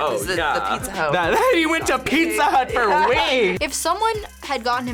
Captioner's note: laughs